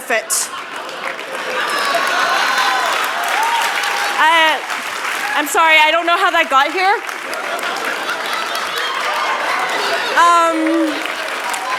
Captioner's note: cheers and applause